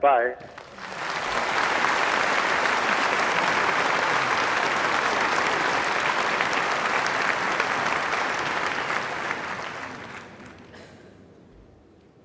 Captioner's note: applause